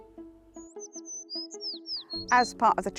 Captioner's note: bird chirping